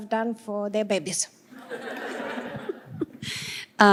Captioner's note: laughter